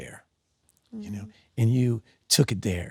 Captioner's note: Sydney hums